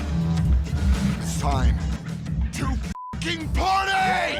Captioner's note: beep